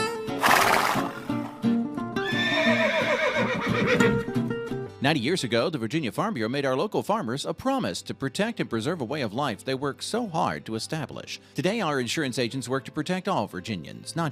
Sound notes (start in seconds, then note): 0.4 horse fluttering; 1.5 easy going music; 2.2 horse whinnying